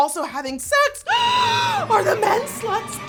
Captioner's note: gasps